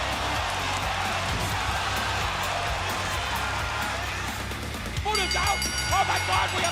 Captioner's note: crowd cheering